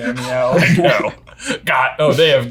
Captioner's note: laughing